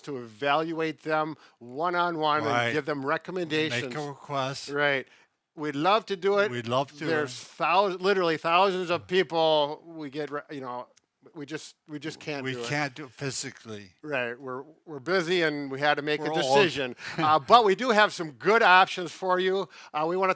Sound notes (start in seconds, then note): 16.9 chuckles